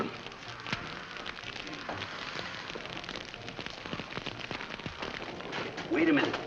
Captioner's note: fire crackling